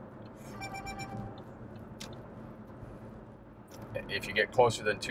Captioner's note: notification chiming